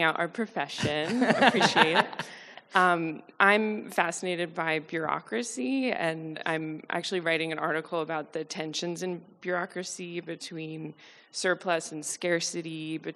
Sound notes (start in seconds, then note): 1.0 panelists and audience chuckling